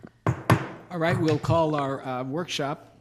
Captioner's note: banging